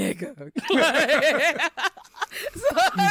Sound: laugh

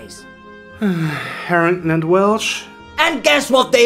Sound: sigh

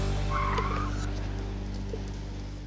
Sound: tires squeal

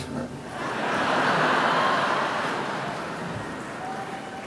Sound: audience laughing

